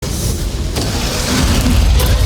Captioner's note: roaring